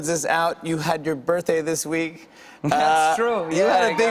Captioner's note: chuckling